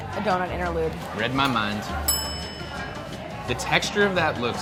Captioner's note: bell dinging